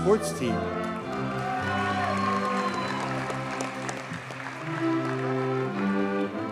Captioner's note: audience cheers and applauds